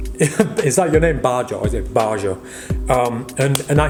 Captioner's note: chuckles